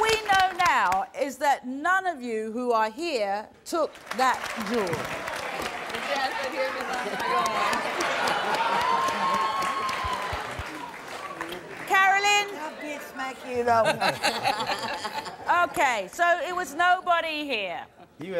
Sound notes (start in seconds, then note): 5.2 audience clapping